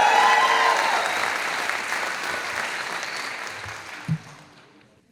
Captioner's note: audience applauding